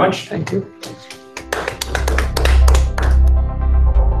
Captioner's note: applause